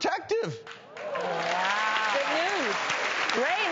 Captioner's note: crowd applauding